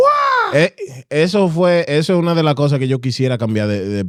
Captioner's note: speaking Spanish